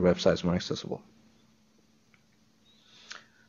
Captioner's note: pause